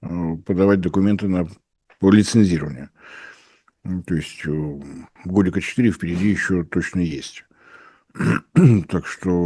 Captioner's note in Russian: откашливается